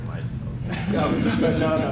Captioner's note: laughter